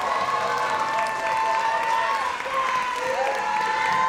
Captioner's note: audience cheers